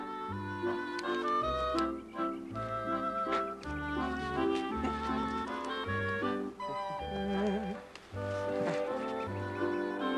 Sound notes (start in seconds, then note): 4.1 humming a tune